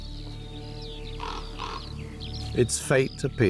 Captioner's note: caws